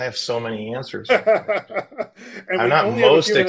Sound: laughs

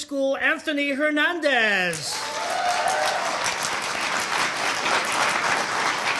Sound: audience cheering

